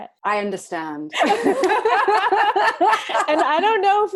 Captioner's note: laughs